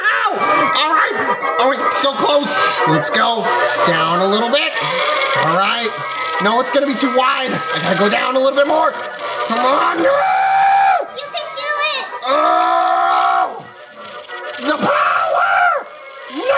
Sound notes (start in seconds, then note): 10.5 yells; 12.2 groans